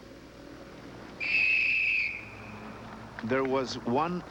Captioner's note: blows whistle